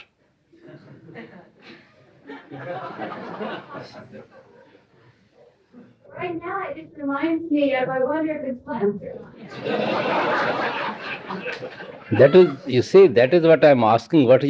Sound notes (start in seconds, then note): 1.2 laughter; 9.4 more laughter